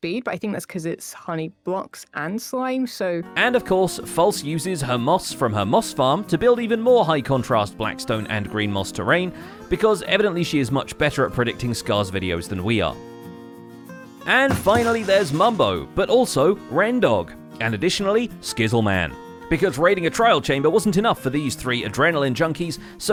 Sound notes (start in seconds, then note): 14.5 thunk; 14.6 dry noodles clattering